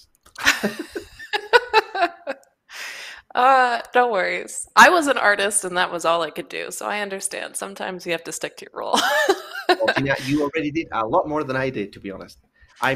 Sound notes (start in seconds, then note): 0.4 laughter; 8.9 laughs